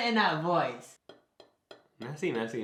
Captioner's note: tapping on his plate